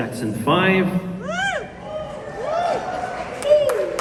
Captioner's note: whoo hoo! from the crowd